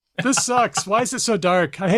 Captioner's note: laughs